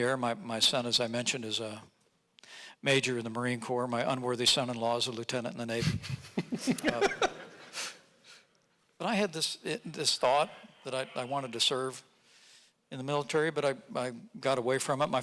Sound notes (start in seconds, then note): 6.3 audience laughing